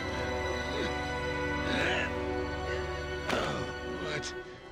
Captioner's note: grunting